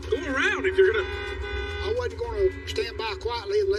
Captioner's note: honking horn